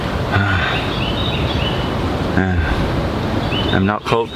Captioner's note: birds are singing pleasantly